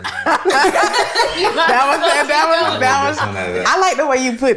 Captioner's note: all laughing